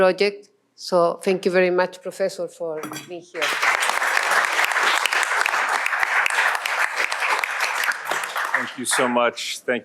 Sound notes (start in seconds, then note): 3.3 applause